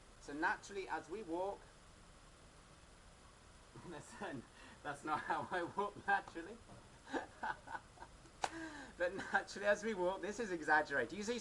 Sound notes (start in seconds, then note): 7.1 laughing